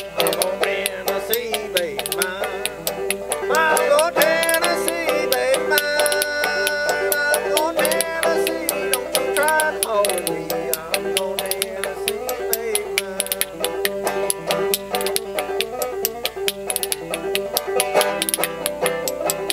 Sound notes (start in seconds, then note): 14.5 upbeat banjo music; 16.0 spoons clacking